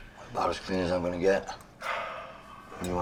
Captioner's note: sighs